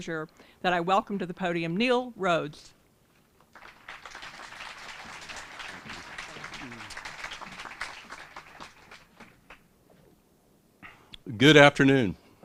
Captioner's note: applause